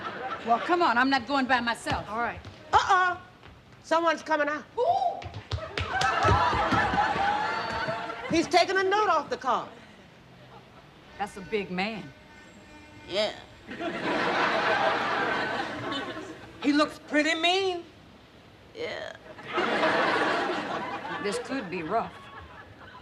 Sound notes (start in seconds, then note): 4.7 Mary exclaiming